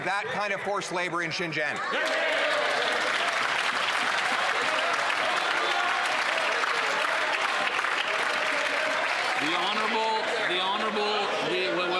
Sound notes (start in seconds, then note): 6.2 some Applause